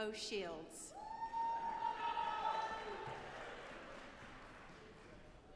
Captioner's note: audience applauding